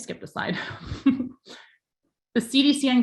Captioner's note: chuckles